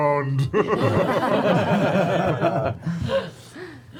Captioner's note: laughter